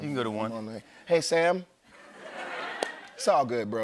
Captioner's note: laughter